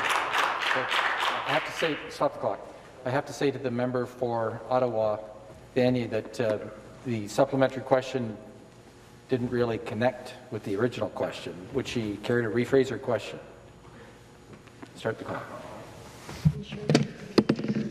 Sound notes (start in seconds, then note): 1.7 applause